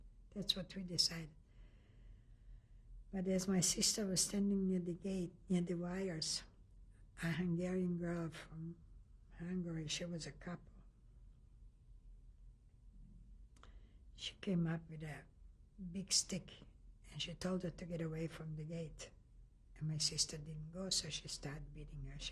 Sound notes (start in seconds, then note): 10.8 pauses for 3 seconds